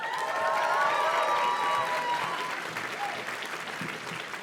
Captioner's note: audience cheers and claps